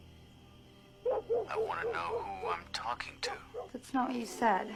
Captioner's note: dog barking in the background